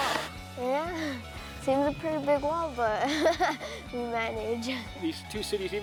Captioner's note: laughs